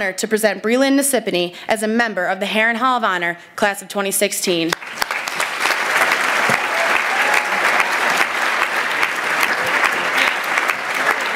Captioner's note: applause